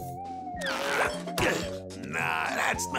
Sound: grunting

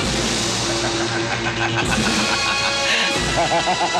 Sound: laughs

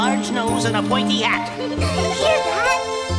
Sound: the Triplets giggle

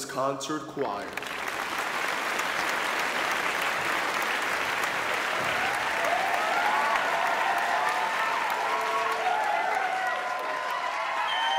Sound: applause

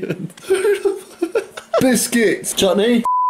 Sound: laughs

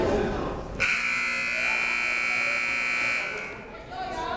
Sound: buzzer

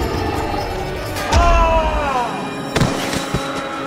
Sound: screams

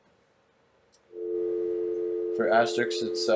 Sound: dial tone ringing

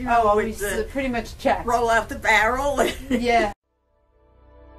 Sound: laughs

